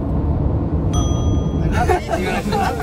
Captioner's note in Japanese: 効果音 チーン